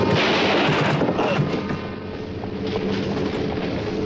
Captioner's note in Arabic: إطلاق نار